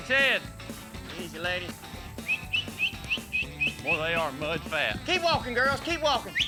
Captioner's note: whistles